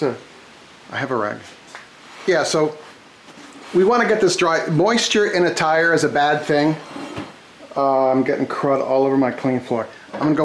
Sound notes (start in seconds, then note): none